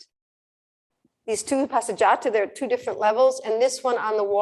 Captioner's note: non-english speech